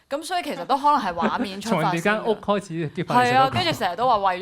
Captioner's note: laughs